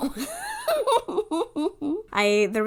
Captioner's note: laughs